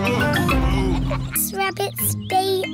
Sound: daddy pig groans

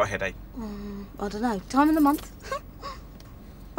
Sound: laughs

